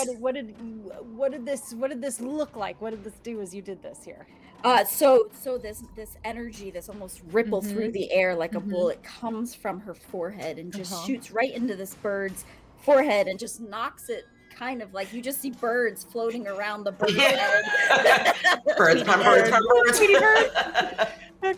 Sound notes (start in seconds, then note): 13.6 bell chimes dinging faintly; 17.0 all laugh; 20.8 laughs